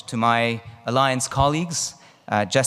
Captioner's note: none